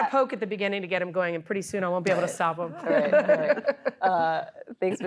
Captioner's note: laughter